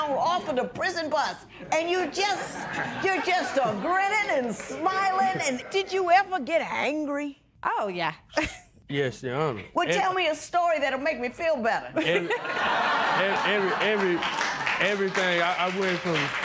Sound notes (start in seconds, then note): 11.9 laughter